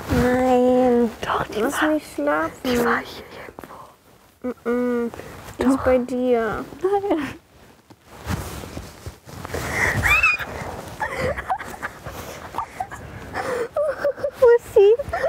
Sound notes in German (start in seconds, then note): 9.6 Leises Kreischen; 11.0 Lachen